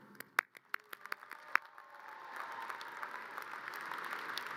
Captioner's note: audience cheers and applause